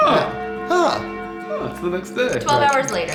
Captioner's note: clock chimes